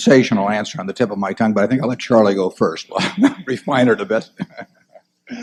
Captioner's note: laughs